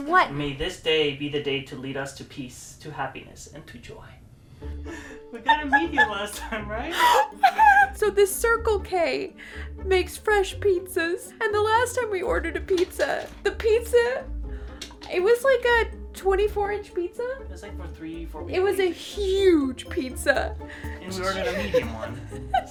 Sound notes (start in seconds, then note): 6.9 laughs